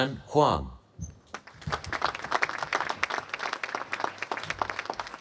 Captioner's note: applause